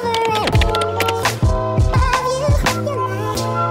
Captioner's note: buttons clicking; electronic music